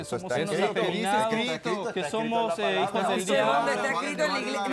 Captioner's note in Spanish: Comentarios al unísono